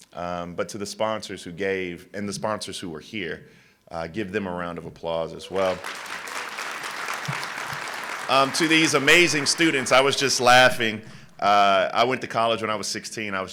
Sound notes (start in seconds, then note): 5.5 applause